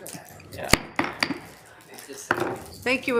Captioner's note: gavel tapping